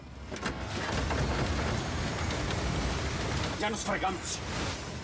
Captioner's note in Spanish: ruido al patear el freno